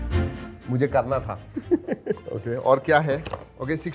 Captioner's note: laughs